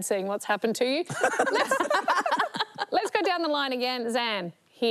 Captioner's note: laughter